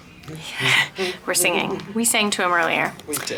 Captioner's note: humming